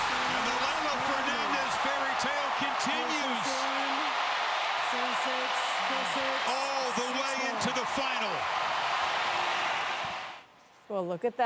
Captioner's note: cheers and applause